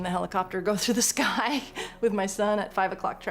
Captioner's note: laughs